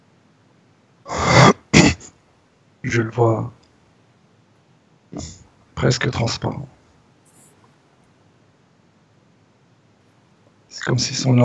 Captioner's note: coughs